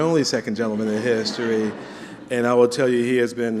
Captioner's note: laughter